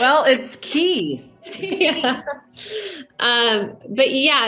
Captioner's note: everybody laughing